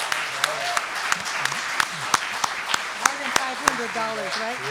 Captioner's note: applause and Cheering